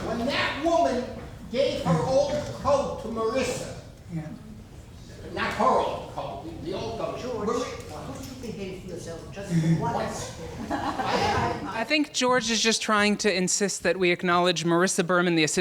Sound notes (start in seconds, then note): 9.4 laughing